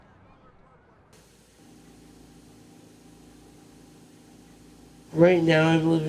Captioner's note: ventilator humming